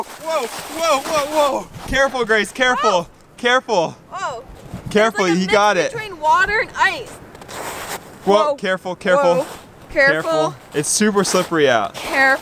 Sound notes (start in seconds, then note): 7.5 snow crunching